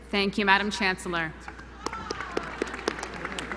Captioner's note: applause